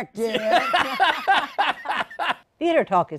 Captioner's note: laughter